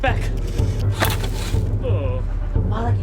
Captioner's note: wood snapping